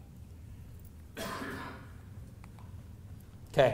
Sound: off screen coughing

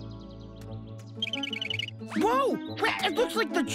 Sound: woodchuck squeaking

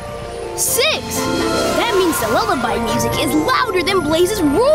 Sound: none

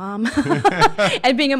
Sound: laughing

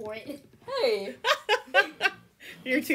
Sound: laughter

